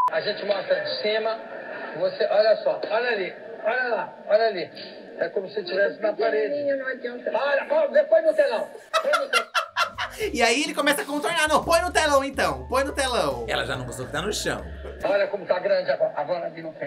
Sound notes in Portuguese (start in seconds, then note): 8.7 gargalha